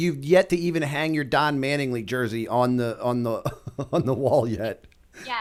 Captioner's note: chuckle